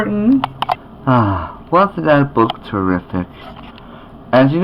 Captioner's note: sighs